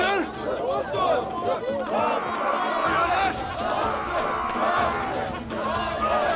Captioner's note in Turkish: Bağrışma sesleri